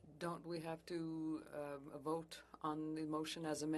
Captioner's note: speaking FRENCH